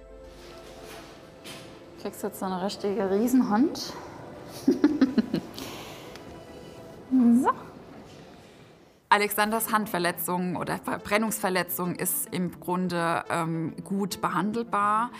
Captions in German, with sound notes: (Nervöse Musik) Kriegst jetzt noch eine richtige Riesenhand. (Sie lacht.) So. Alexanders Handverletzung oder Verbrennungsverletzung ist im Grunde gut behandelbar.